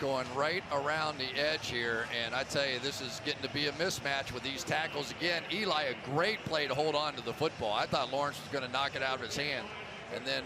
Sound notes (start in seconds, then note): none